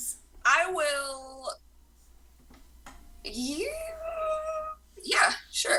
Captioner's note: uncertain noise